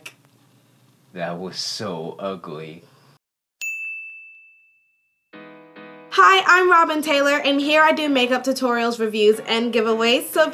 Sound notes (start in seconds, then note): 3.6 bell chimes